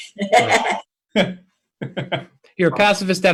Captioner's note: laughter